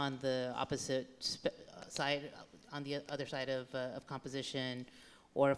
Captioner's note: none